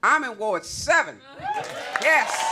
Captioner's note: cheers and applause